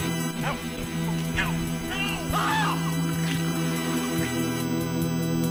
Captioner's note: screams; intense synthesizer music